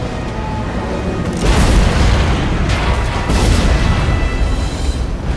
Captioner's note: explosions blasting